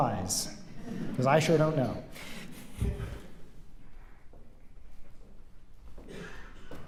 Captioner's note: laughter